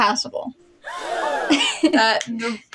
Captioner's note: audience Gasping; laugh